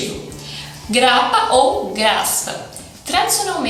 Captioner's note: in portuguese